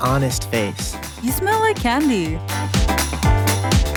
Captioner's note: voiceover; upbeat funk music